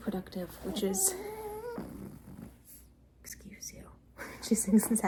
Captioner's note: interrupted by puppy grumble